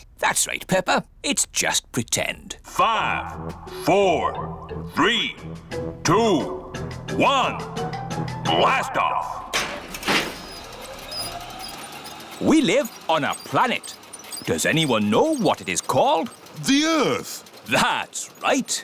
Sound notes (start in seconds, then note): 3.2 on speakers